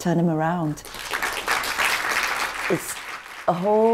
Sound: applause

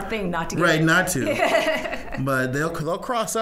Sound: laughing

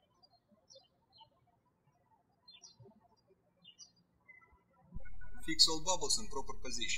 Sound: birds chirping

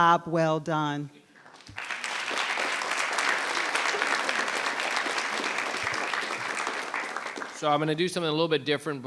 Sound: applause

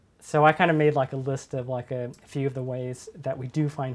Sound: none

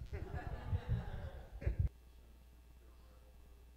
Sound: laughs

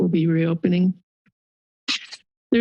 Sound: pause

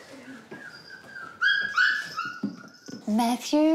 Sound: dog whines

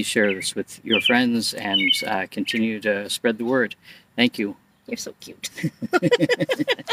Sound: both laugh

